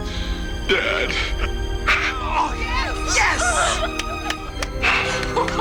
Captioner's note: cheering; sobbing Continues; applause